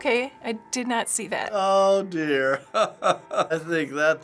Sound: laughing

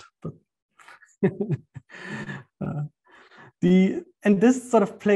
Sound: laughs

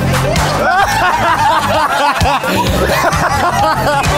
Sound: laughing

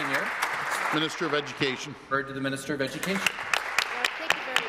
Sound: applause

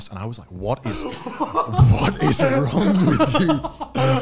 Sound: laughing

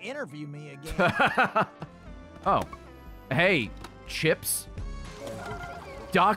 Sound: laughs

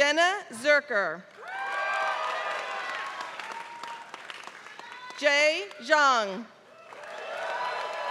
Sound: applause

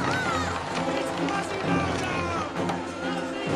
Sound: crowd

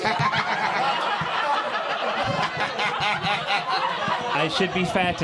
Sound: crowd laughing

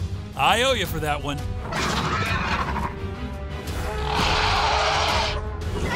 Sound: dinosaurs roaring

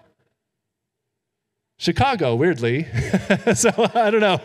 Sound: chuckles

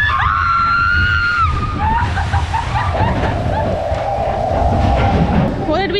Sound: screaming

